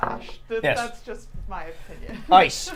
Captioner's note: laughs